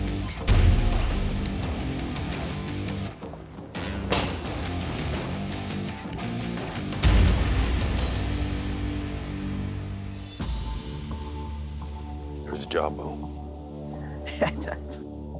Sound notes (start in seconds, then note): 0.1 thudding; 3.9 slashing; 13.9 laughs